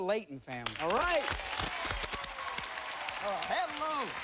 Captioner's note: cheers and applause